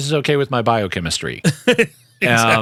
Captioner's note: laughing